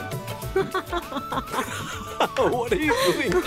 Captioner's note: Ana and Rohit laughing